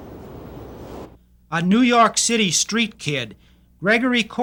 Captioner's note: voiceover